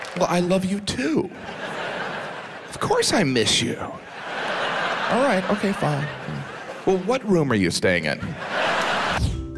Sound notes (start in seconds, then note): 4.5 audience laughs; 9.1 pleasant music